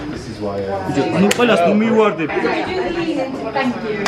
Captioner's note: people chatter